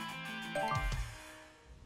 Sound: phone chimes

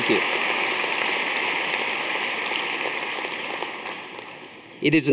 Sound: audience applauding

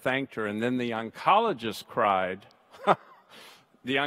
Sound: laughs

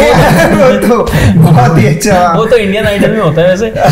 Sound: laughing

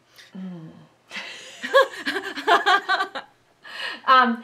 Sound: both laughing

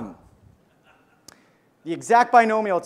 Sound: audience member laughs

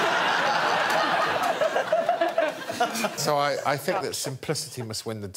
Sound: laughter

